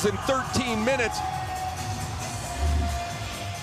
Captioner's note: cheering and APPLAUSE